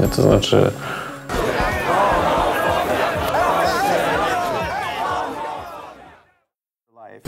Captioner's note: Polish language; crowd chanting